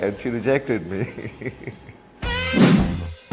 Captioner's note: laughs